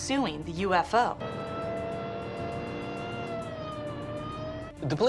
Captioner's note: siren blaring